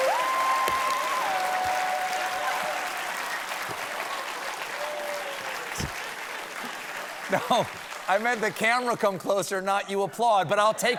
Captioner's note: applause